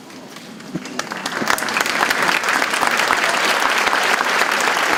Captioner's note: audience applauding